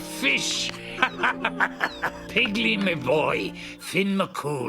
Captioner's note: chuckling